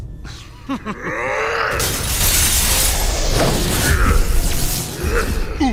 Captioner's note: chuckling; blast